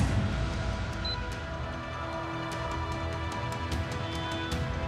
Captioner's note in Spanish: sonido bip del control